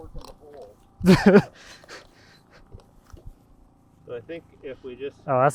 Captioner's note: laughs